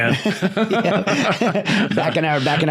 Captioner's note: both Laughing